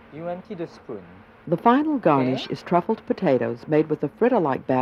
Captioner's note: voiceover